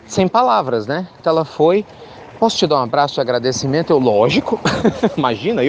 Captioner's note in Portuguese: risos